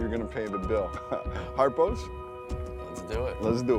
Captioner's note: laughs